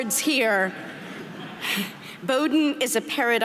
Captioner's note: audience laughing